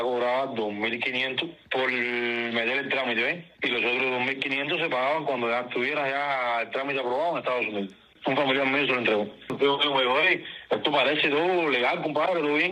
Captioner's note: speaking in non-english